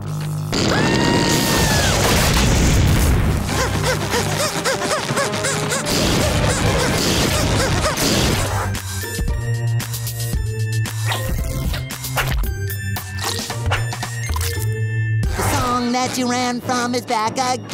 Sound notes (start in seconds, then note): 0.6 screaming; 3.6 panting